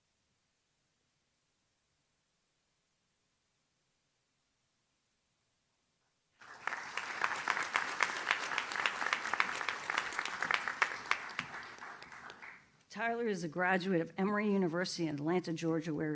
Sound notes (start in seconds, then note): 6.4 audience claps